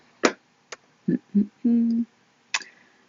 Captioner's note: humming